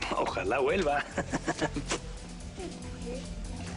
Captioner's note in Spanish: Ríe